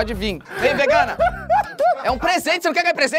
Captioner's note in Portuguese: risadas